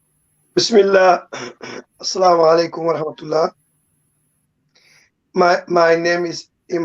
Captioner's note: speaking foreign language